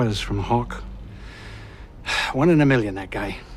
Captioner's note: sighs